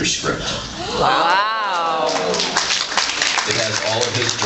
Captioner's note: applauds